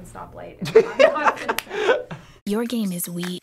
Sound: laughter

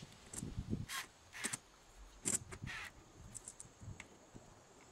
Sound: drill whirring

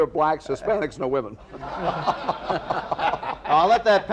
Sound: laughter

